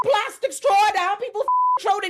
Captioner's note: beep